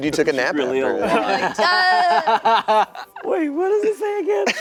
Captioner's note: laughing